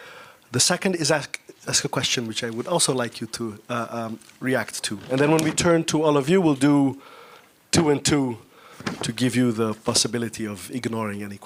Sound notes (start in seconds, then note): none